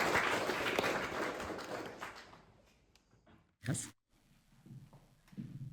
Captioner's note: clapping